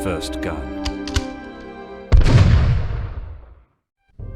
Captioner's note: gun cocks and fires